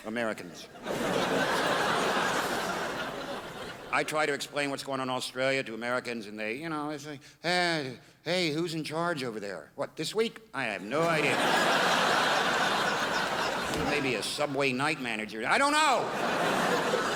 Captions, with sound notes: Americans. I try to explain what's going on in Australia to Americans and they you know are like Hey, who's in charge over there? What, this week? I have no idea. *crowd laughs* Maybe a Subway night manager. I don't know.